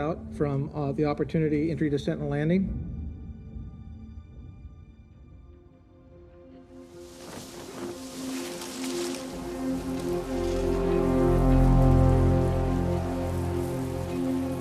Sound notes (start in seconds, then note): 8.2 soft music; 11.2 wind whoshing